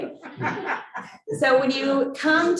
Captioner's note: audience laughs